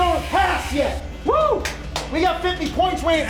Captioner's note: player yells Wooo!